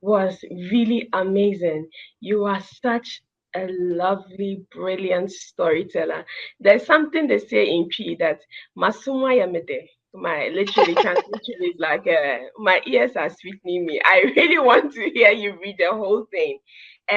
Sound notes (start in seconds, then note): 10.1 speaking in Twi